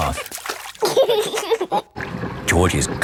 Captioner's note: giggling